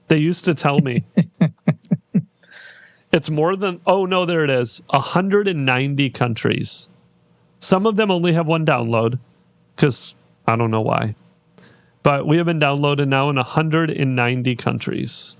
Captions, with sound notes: They used to tell me. (laughing) It's more than, oh no, there it is. 190 countries. Some of them only have one download, because I don't know why. But we have been downloaded now in 190 countries